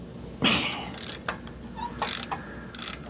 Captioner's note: metal Clanking